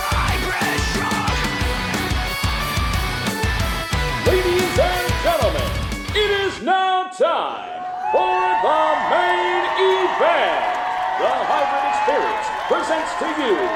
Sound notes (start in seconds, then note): 7.6 crowd cheering